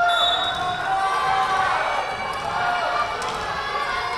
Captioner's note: whistle blowing